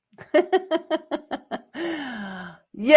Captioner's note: laughing